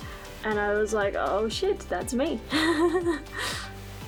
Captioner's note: nervous laughter